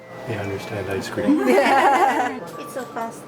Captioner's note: laughs